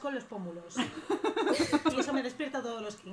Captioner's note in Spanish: risas